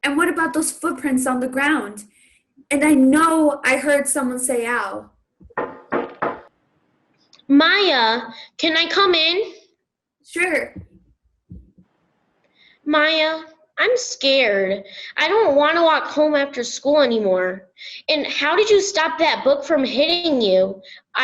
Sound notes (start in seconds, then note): 5.4 knocking on door